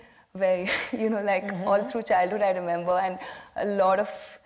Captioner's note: chuckles